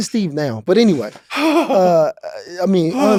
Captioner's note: laughing